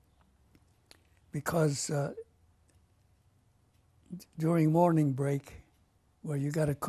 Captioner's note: pauses for 3 seconds